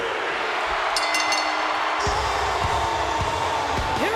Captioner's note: bell ringing